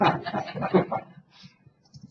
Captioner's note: laughter